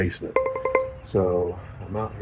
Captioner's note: alarm ringing